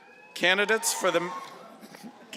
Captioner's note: cheering